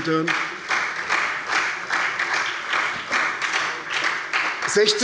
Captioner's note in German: Beifall bei der SPD